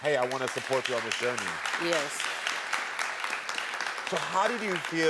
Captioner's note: audience clapping